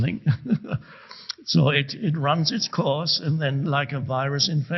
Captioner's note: chuckles